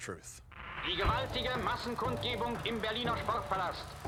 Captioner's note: German dialogue